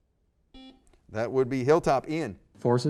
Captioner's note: buzzer